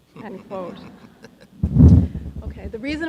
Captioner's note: audience laughing